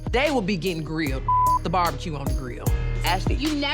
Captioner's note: beep